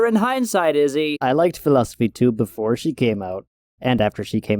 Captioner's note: sarcastically